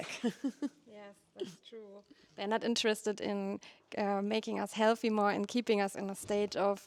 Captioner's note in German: Gelächter